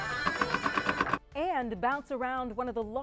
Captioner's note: pinball bouncing